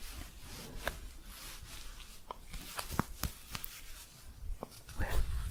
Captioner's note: scratchy shuffling